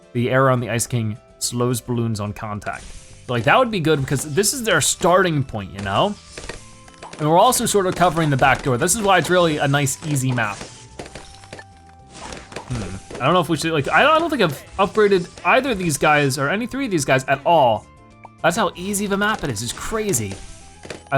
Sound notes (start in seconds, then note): 10.7 balloons popping